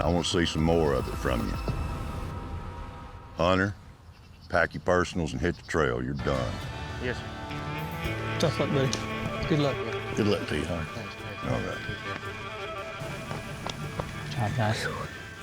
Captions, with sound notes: AND I WANT TO SEE SOME MORE OF IT FROM YOU. HUNTER... HUNTER, PACK YOUR PERSONALS AND HIT THE TRAIL, YOU'RE DONE. YES SIR. [CHATTERING] GOOD LUCK TO YOU. THANKS. ALRIGHT. GOOD JOB, GUYS. [EXHALES]